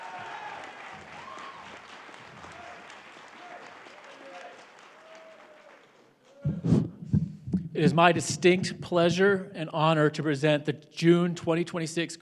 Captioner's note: applause